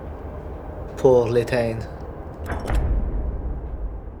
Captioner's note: mechanism clicks